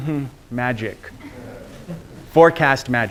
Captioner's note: students laughing